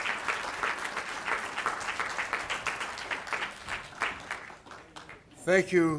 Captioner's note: applause